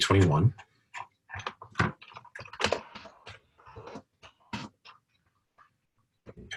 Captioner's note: typing Sounds